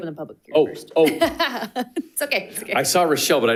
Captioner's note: chuckles